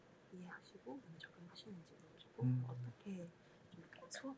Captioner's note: whispering